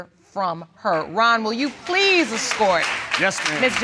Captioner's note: audience applauding